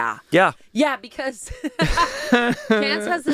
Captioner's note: laughs